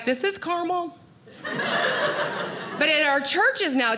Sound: audience laughing

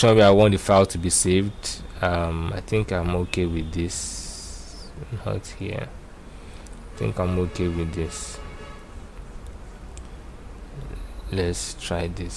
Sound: car horn

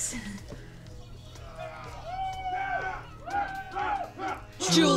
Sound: commotion upstairs

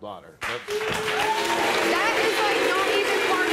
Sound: audience applauds

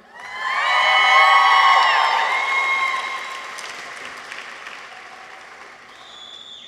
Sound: people cheer; audience applauds

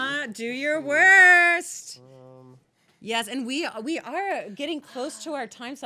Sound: none

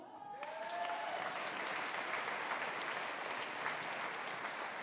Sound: audience applauding

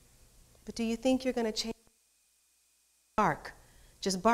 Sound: speaks off microphone

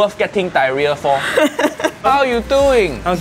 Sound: woman laughing

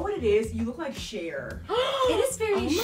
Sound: gasps

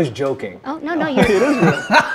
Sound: laughs

